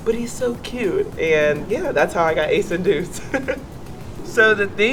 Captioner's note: laughs